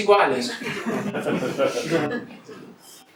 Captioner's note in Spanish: risas